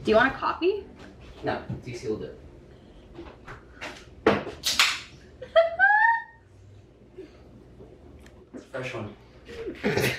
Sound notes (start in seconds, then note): 4.6 can popping; 5.4 laughing